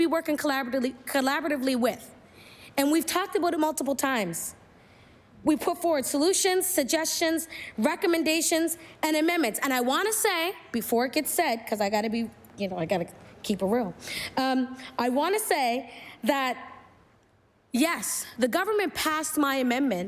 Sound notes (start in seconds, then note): none